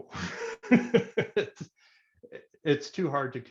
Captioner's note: laughs